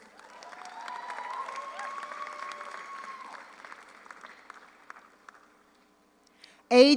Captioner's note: audience applauds; audience cheers